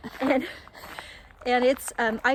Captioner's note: both laugh